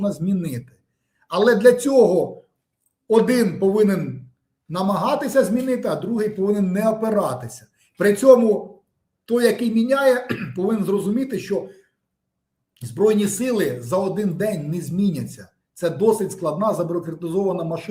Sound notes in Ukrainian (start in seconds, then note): 10.2 прочищення горла